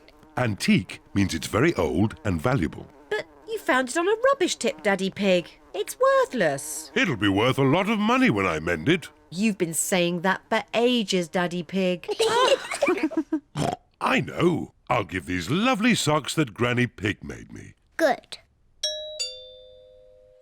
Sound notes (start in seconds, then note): 12.0 kids and mummy pig laugh; 13.6 oinks; 18.8 doorbell rings